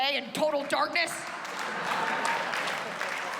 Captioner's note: laughter